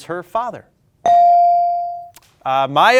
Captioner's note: ding chimes